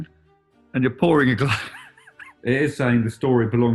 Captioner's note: laughing